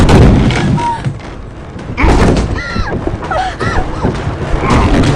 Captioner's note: door clunking; patient yelping